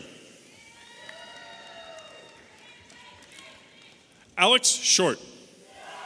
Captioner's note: audience applauding and cheering